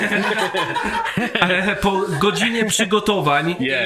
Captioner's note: laugh